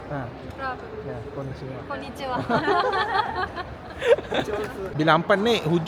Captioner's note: laugh